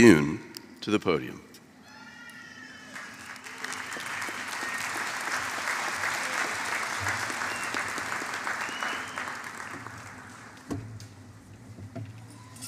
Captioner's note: applause